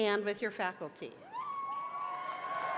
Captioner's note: cheers and applause